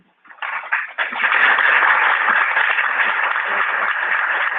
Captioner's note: clapping